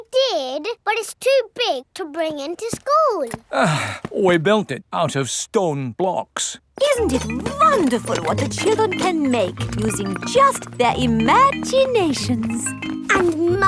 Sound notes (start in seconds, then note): 3.4 sighs